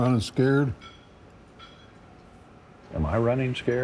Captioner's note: plates clanging